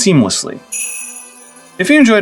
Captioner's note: sleigh bells